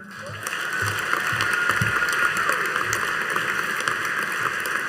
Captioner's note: audience applauding